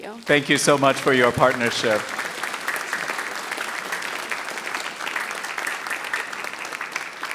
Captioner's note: audience applauding